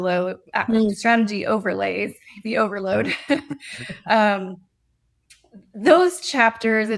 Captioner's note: chuckles